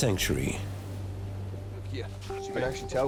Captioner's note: waves crashing